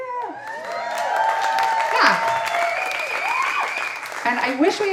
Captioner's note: audience applauding and cheering